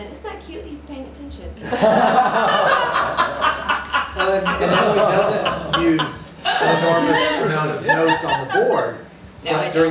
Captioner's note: laughter